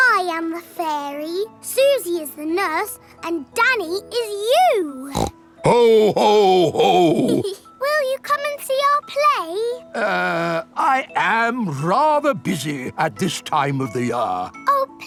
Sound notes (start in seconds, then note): 5.0 snorts; 5.6 giggles